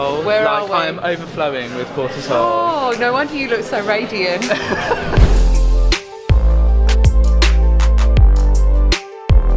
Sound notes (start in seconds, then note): 4.4 laughing; 5.2 low-key beat